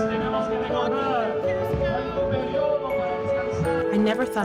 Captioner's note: people speaking Spanish